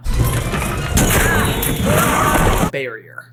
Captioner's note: crash landing; suspenseful music